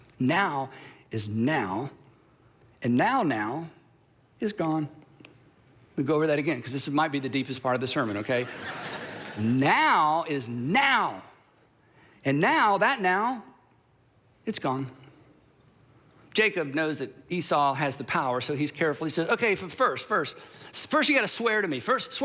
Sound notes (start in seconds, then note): 8.4 crowd laughing